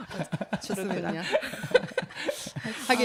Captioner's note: 웃음